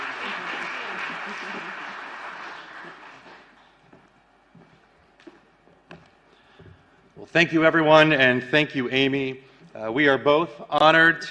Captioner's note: applause